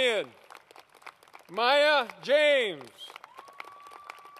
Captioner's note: applause